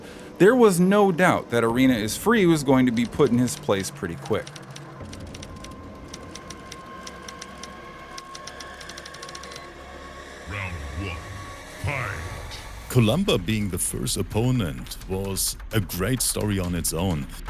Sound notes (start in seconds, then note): 4.7 typing noises over ominous rising tone